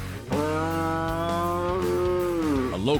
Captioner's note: cow moos